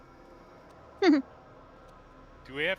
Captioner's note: laughs